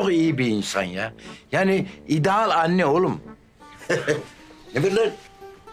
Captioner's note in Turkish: Gülme sesi